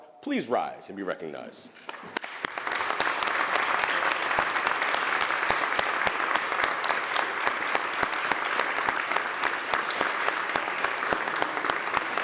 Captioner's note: applause